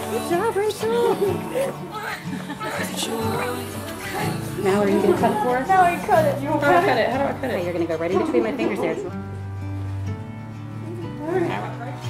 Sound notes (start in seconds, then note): 1.0 baby crying